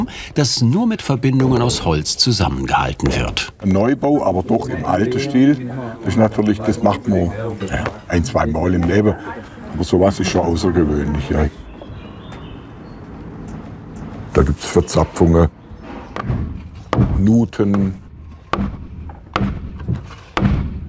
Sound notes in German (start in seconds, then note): 12.2 Vogelzwitschern